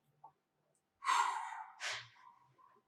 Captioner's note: sighs